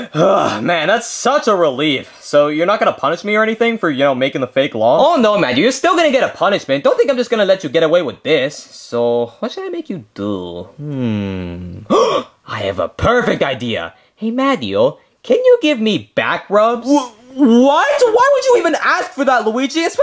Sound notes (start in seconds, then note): 10.8 gasps